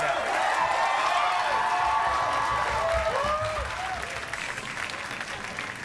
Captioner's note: audience cheers